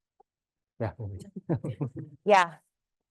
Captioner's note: chuckles